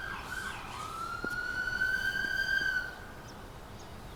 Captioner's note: siren wails